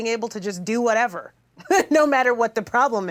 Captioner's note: chuckles